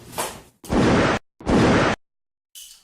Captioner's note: gunshots